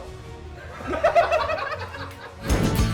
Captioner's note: laughter